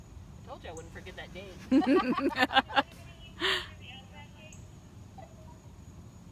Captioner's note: laughter